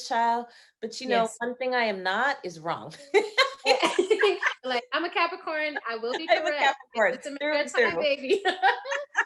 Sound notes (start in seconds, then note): 3.2 both laughing